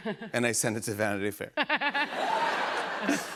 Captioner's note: laughter